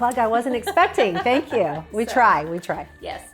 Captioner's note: laughs